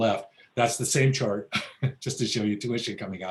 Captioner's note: laughs